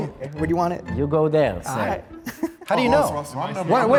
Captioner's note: presenter laughs